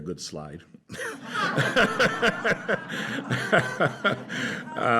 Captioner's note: laughter